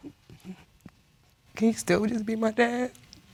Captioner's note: sobs